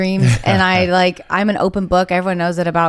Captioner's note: laughs